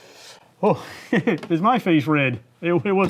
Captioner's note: giggles